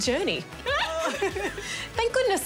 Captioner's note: laughs